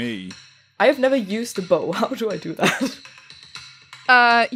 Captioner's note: laughing